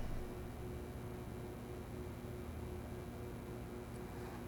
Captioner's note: light buzzing; camera clicking